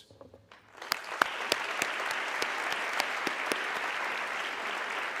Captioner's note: audience clapping